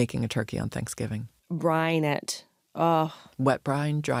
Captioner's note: sighs